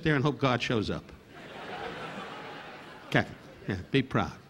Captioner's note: audience laughing